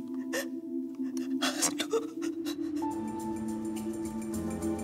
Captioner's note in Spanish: sollozos